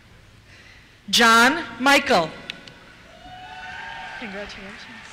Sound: cheers

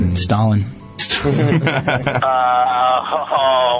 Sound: laugh

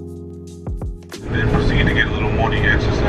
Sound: driver Over Speaker

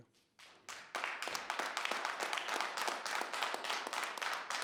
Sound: audience applauding

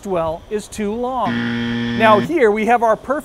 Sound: buzzer

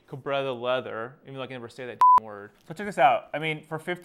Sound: beep

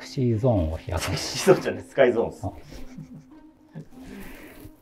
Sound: laughing

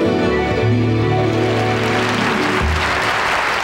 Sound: audience applauding

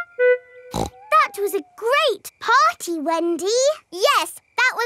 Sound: snorts

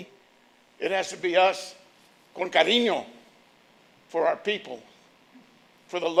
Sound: speaking Spanish

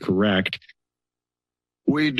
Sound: silence

